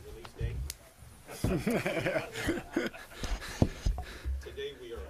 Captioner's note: laughing